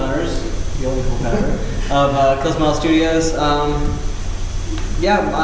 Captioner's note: laughter